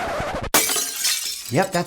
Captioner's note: glass breaking